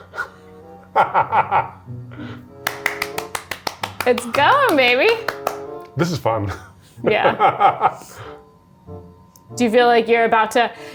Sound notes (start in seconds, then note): 0.9 laughs; 2.6 applauds